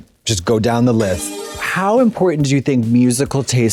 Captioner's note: bright chime